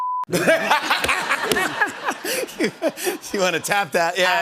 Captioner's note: laughter